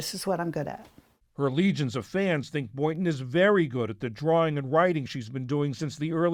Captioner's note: voice-over